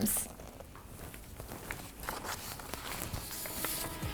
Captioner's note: shuffling papers